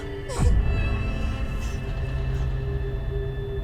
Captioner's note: sobbing